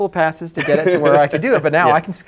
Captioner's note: laughs